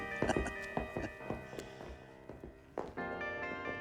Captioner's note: laughs